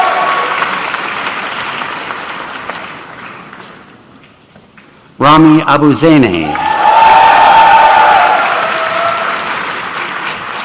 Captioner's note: applause